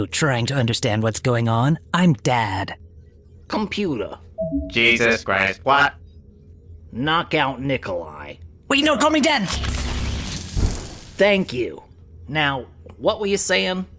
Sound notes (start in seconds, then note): 9.6 bzzzzzt!